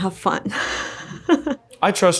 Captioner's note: laughs